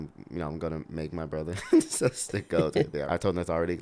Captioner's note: laughs